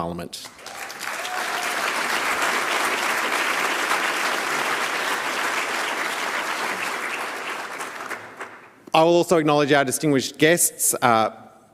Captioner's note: applause